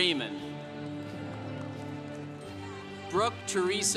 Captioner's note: congregation cheering